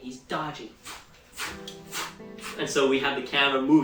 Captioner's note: whooshing